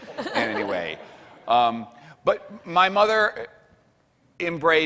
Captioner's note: laughing